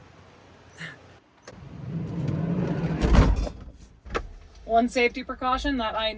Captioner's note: door rattling